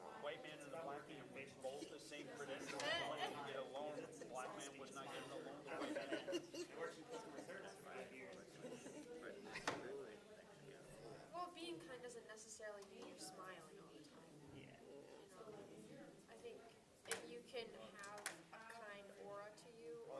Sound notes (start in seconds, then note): 1.8 students chattering